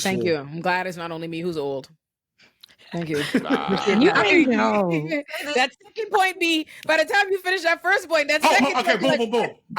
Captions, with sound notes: - Thank you. I'm glad it's not only me who's old. Thank you. (laughing) That second point B, by the time you finish that first point, that second point B- - Oh, okay, boom, boom, boom.